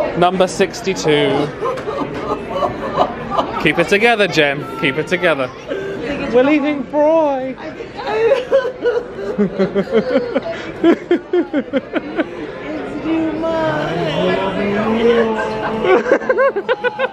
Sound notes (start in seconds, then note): 12.8 laughs